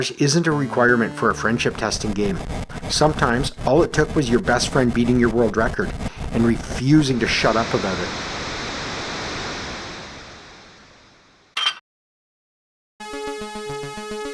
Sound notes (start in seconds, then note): 11.6 clank